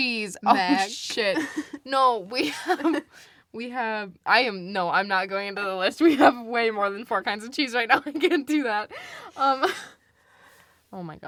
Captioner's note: laughs